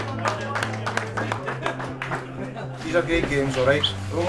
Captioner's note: crowd clapping